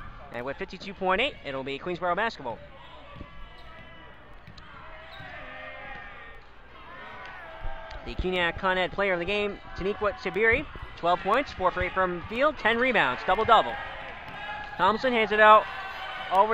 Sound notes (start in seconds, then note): 3.3 crowd talking and yelling